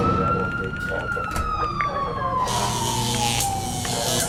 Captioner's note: siren